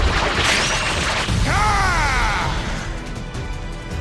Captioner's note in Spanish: Grita